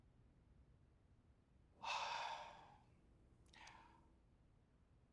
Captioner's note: sighs